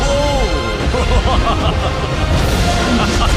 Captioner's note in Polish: donośny śmiech